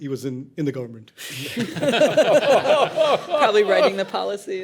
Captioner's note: laughing